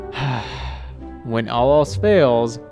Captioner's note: sigh